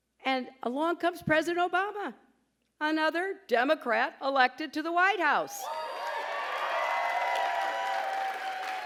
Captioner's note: applause